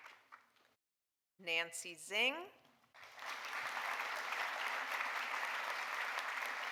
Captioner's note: audience applauding